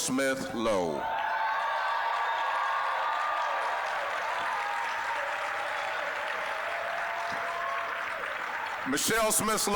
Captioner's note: applause, cheering